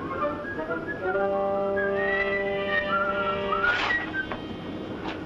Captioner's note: whistling